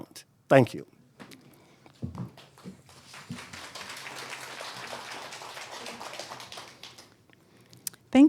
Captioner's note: audience applauding